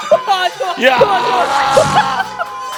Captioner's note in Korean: 슈우웅~